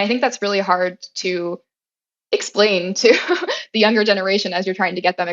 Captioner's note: laugh